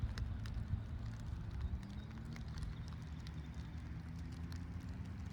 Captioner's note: distant traffic noise